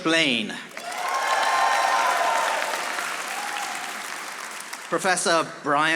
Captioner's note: audience applauding